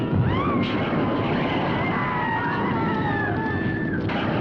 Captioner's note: witches screaming